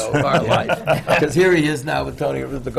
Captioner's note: laughs